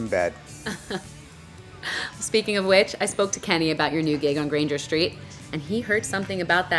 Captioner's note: laughs